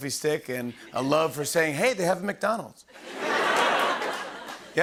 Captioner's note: laughter